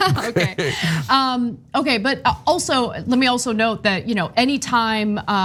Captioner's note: laugh